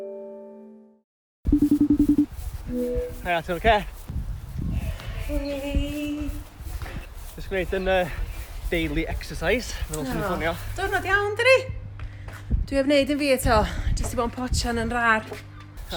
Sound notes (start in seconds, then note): 1.5 phone beeps